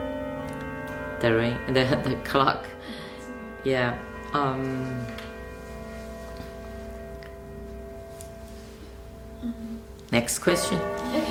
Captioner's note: bell chimes